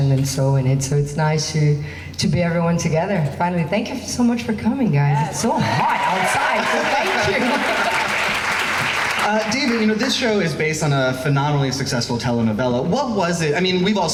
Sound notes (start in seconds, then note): 5.2 crowd cheering; 8.3 laughs